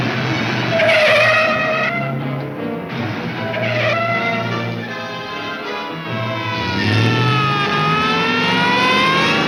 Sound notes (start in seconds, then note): 0.1 tires squealing; 6.2 siren blaring